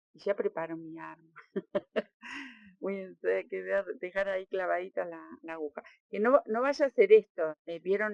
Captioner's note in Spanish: risas